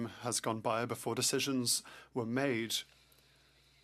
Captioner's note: speaking French